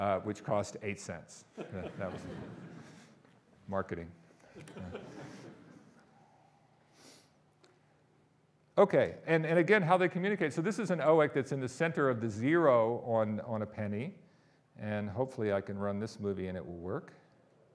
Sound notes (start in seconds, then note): 1.5 audience laughing; 4.5 audience laughing